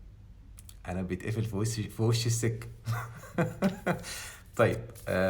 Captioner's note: laughs!